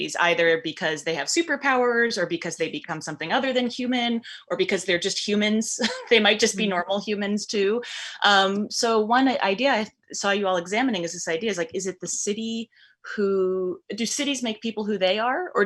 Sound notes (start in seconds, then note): 5.8 chuckles